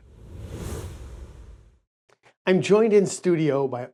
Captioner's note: air whooshing